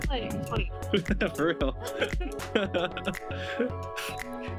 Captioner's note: laughs